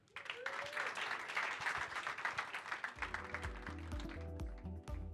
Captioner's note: applause